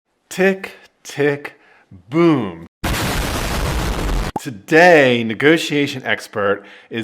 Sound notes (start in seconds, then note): 2.8 boom